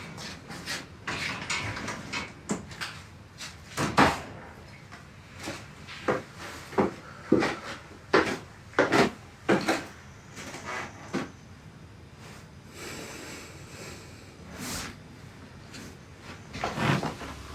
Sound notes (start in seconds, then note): 4.2 door slams; 6.2 footsteps thudding; 13.0 Billy sighs